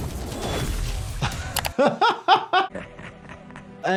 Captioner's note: laughs